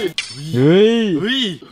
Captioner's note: Pat